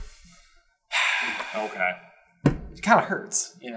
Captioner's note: siiiiiiiiiiiigh